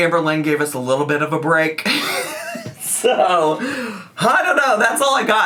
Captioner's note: chuckles